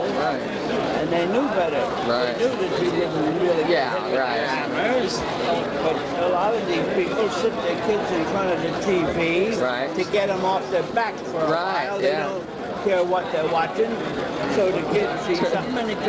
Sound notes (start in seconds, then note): none